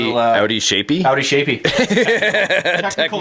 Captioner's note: laughing